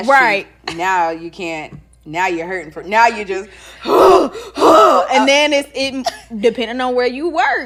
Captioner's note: gasps